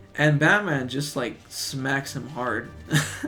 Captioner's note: laughs